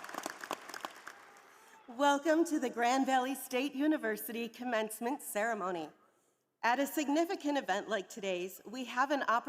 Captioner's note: applause